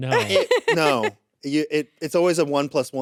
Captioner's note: laughs